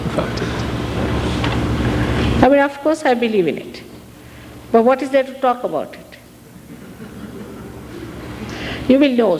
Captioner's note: laughter